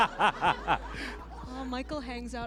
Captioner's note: laughter